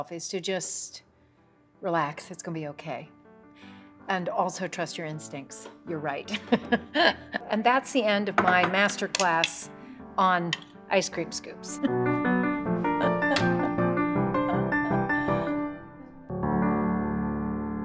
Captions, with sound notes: is to just relax, it's gonna be okay, and also trust your instincts. You're right. (laughs) And that's the end of my masterclass on ice cream scoops. (laughing) (bright music)